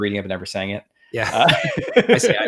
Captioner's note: both laughs